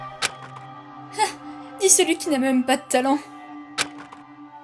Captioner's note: sigh